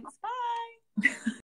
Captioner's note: laughing